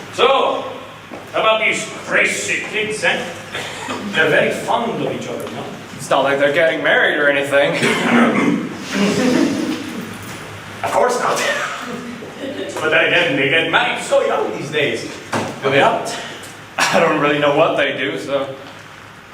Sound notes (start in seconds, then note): 7.8 chokes